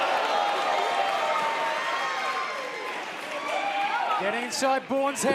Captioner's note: cheers and applause